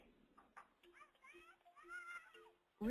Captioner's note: children playing